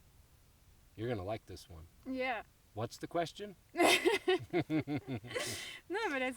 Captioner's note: laughs